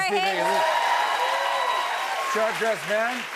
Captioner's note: cheers and applause